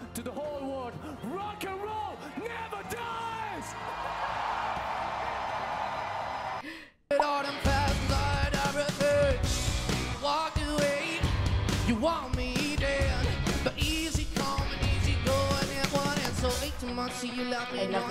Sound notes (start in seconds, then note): 3.9 audience cheers and applauds